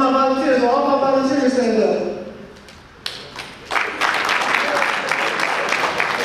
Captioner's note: audience applause